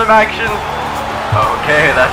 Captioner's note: crowd cheers